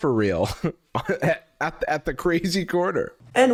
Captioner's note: laughing